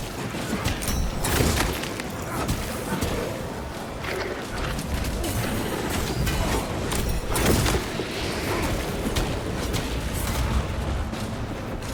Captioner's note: gunfire